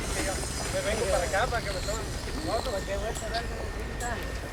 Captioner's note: construction workers speaking Spanish